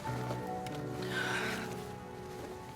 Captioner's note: moan